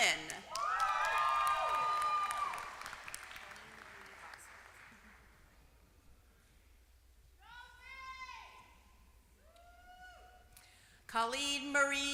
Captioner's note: applause